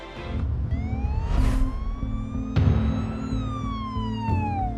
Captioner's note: siren wailing